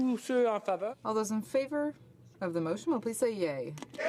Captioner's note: speaking French